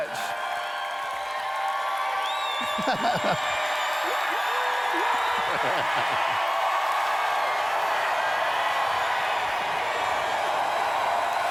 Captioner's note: cheers